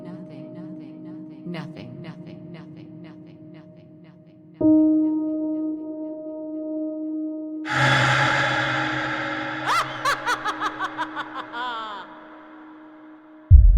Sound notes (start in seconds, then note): 7.7 rattle echoes; 9.1 female entity laughs evilly; 13.5 drum beating